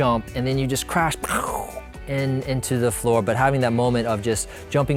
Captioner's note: pow